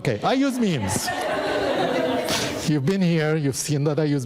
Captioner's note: audience laughing